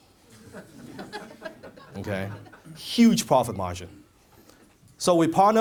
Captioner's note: audience laughs